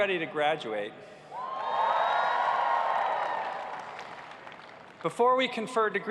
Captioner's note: cheers and applause